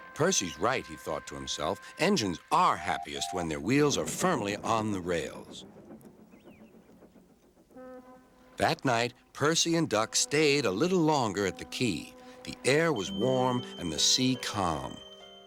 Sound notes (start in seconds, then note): 7.6 ships honking